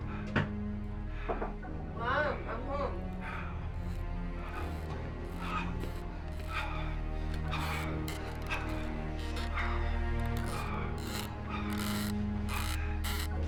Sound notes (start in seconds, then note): 5.8 heavy breathing; 10.3 squeaking furniture